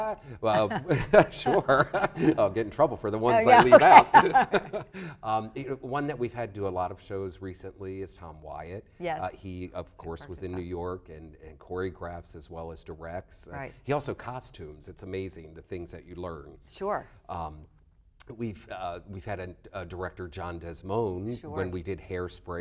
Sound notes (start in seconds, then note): 3.3 laughter